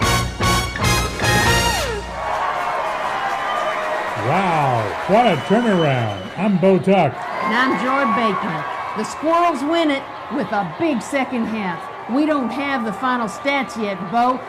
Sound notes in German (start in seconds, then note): 2.1 Menge Beifall